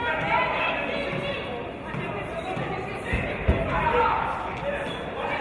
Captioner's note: none